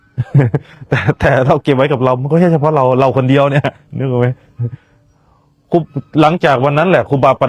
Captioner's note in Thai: เสียงหัวเราะ